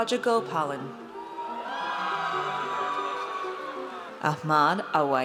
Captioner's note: audience cheers